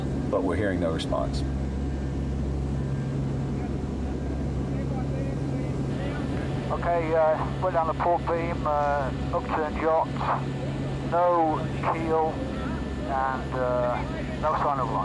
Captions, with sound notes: but we're hearing no response. [faint chattering] - Okay, we're down a port beam, upturned yacht, no keel, and no sign of life.